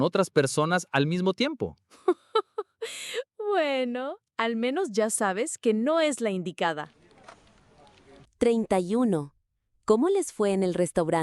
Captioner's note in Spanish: risas